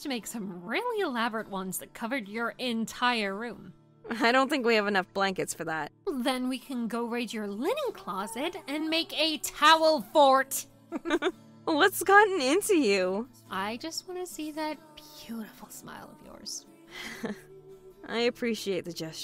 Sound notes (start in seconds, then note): 10.9 laughs; 16.9 sighs